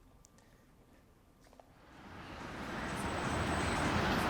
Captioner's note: traffic